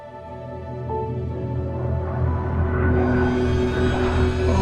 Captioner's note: spaceship hums